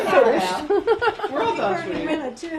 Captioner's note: laughter